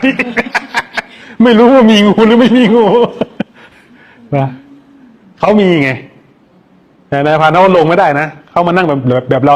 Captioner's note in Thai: เสียงหัวเราะ